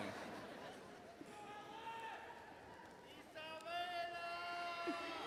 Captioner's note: overlapping chatter